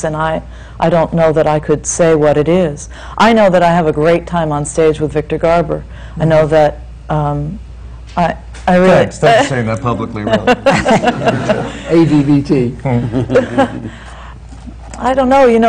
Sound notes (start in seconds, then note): 10.2 she laughs